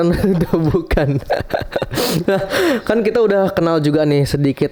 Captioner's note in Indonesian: tertawa